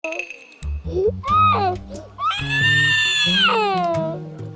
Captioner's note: flat on the floor, wailing